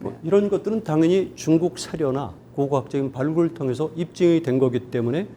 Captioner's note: speaking in Korean